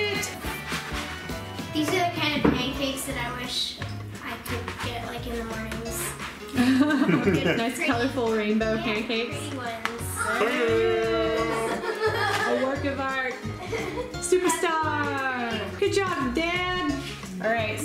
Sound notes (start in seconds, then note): 6.5 laughs